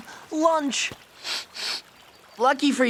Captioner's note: sniffing